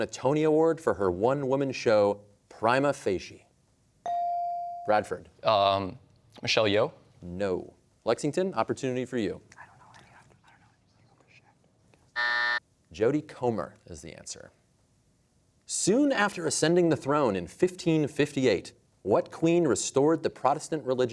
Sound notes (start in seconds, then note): 9.7 players whispering; 12.1 buzzer sounds